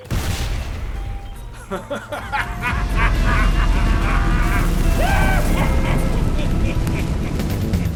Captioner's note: evil cackle of Civvie turning into Chucky's